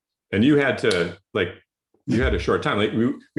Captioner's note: snaps fingers